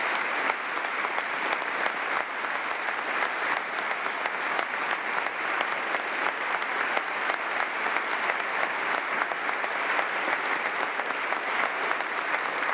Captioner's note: applause